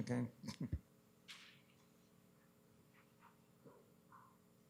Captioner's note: chuckling